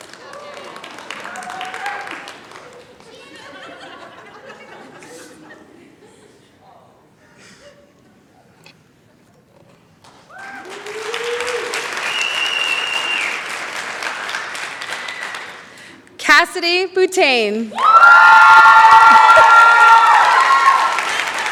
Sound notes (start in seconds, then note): 2.9 chatter; 10.2 cheering; 17.7 cheering, applause